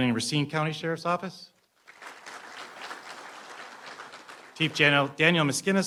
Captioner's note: applause